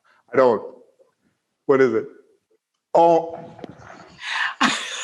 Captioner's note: laughter